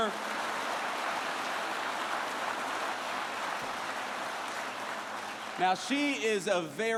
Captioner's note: applause